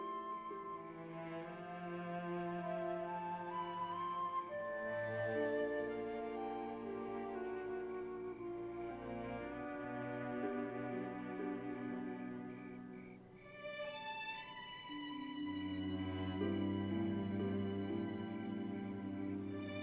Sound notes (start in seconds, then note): 5.4 chirping Continues